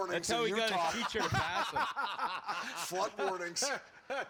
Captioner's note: laughing